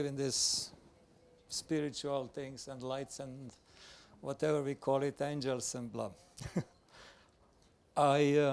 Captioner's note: laughs